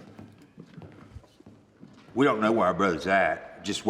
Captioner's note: none